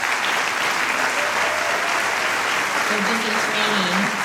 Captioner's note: applause